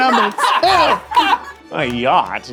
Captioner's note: all laughing; triumphant music continues